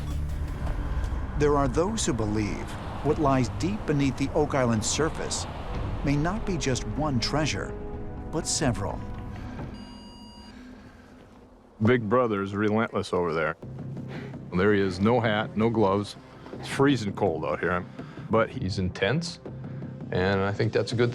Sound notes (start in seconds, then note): 9.7 electronic beeping